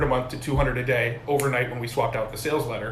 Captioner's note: fingers snapping